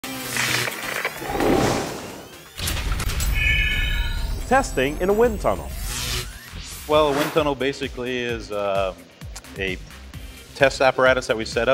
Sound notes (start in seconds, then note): 1.2 sound Effects